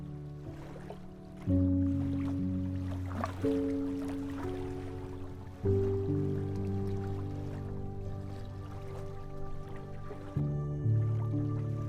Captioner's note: sounds of water swirling